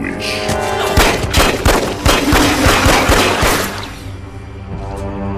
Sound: gunshots

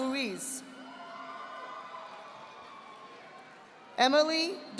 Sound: audience applauding

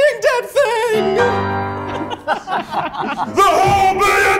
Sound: judges laughing

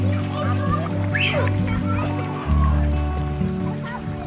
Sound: kids chattering

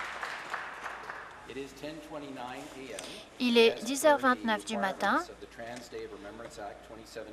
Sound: some Applause

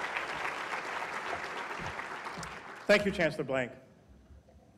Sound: applause

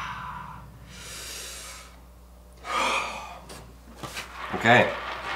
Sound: groaning; breathing deeply

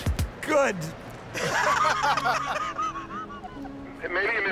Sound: laughter

